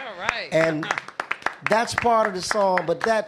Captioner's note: applause